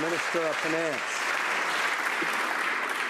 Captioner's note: some Applause